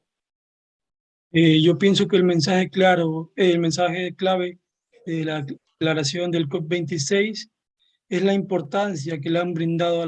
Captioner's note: speaking Spanish